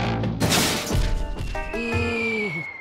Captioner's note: crash; air whistling